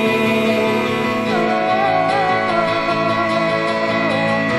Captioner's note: crying